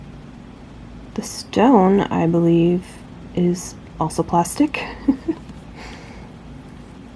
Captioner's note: chuckles